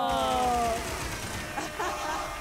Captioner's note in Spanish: Aplausos